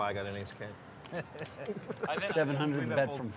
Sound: chuckles

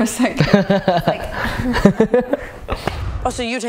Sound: laughs

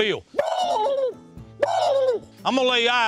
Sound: bird calls

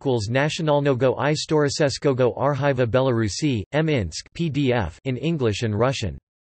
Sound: in English and Russian

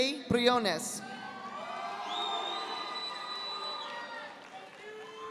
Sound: audience applauding

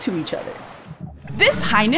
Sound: dolphin & whale calls

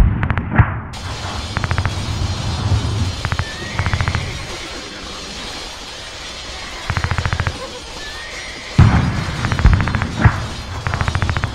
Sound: machine gun, artillery shells; machine gun, artillery shells and swords striking

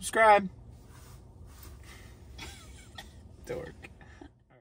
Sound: giggles

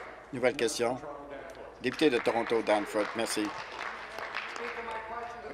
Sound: applause

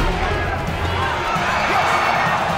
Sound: crowd cheering

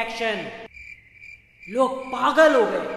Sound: crickets chirp

